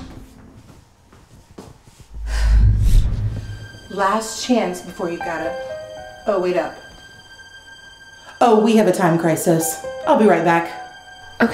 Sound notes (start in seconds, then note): 2.1 Liz whooshes; 2.2 Ashley sighs